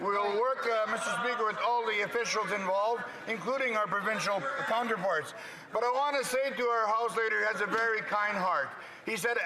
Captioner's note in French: voix de l'interprète